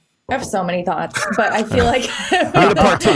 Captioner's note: chuckles